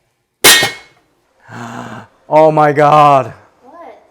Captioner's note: gasp